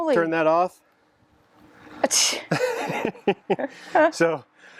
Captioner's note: laughs